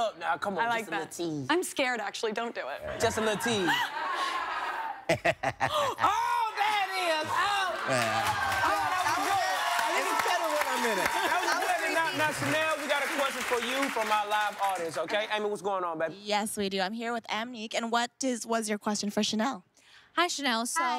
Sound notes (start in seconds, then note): 7.3 laughing; 14.3 cheers and applause